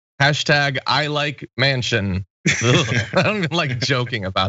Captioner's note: laugh